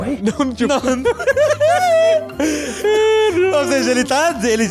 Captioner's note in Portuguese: risos